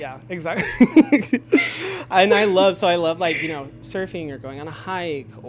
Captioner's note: laughs